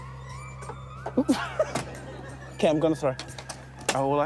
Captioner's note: laughs